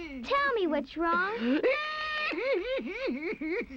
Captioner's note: weeping continues